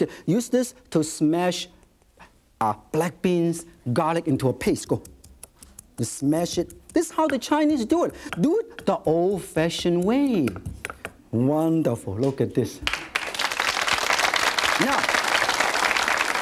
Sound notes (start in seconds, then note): 12.8 audience claps